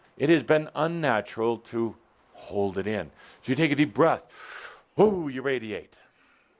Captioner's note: none